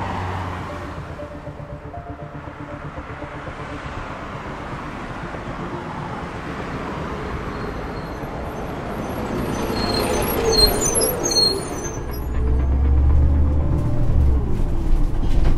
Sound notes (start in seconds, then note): 9.0 bus engine sounds